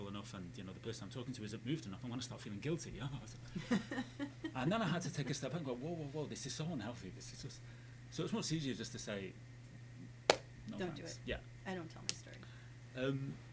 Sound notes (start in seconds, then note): 3.1 laughing